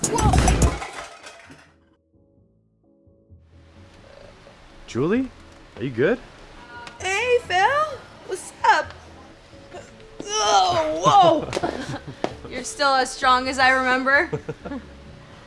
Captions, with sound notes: - Woah! - Julie? Are you good? - Hey, Phil! Wassup? (groan) Woah! You're still as strong as I remember? (laughs)